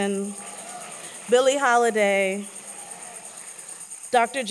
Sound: applause

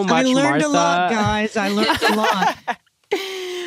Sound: laughter

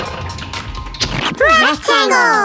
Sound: splat

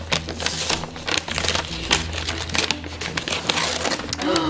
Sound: wrapper rustling

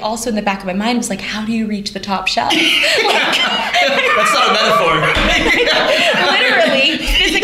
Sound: laughter

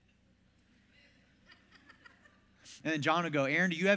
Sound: congregational laughter

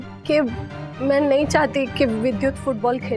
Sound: none

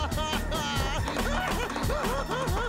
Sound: crying

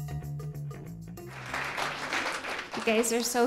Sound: applause

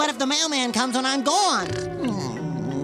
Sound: snoring

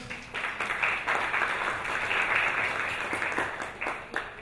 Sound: audience applauds

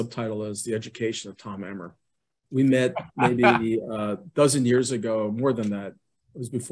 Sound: laughs

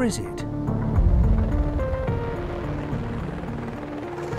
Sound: helicopter whirring

